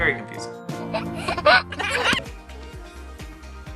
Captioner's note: laughing